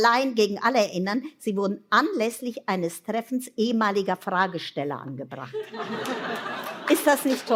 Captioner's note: laughter